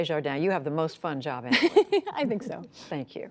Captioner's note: laughter